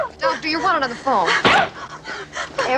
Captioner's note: smack!